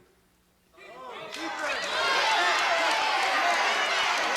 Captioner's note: audience shouting